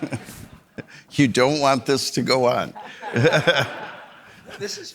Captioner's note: audience laughing; audience laughing; laughs